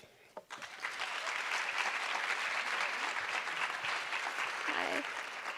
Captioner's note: audience applause